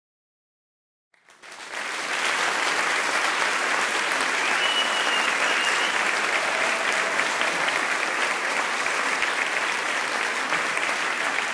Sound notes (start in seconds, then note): 1.1 sound of applause and whistle